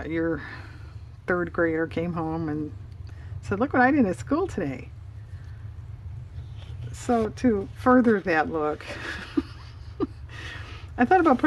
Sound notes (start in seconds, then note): 8.9 laughs